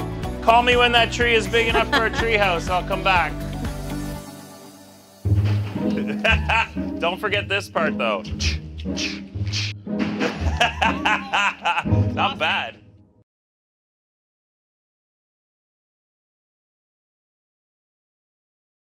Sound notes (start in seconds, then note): 5.9 laughs; 10.2 laughs